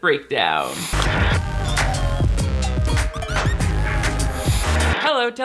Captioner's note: static crackling; upbeat music